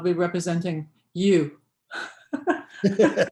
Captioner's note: laughter